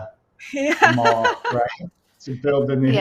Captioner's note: laughing